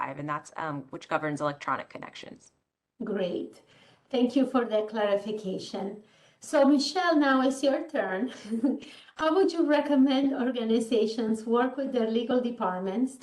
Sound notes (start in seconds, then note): 8.4 chuckles